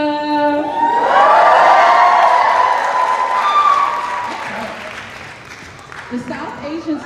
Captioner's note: cheering